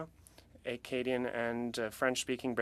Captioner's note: speaking French